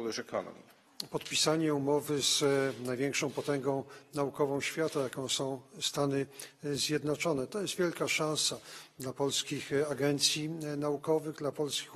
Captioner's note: speaking polish